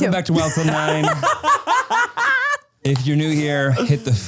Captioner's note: laugh